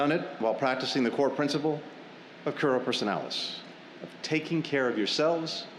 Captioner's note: none